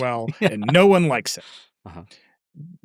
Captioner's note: laughing